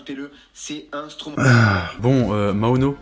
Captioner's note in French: soupir